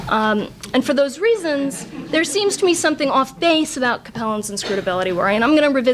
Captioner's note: audience laughs